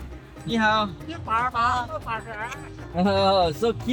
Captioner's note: speaking Chinese